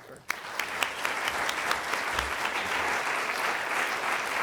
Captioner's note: applause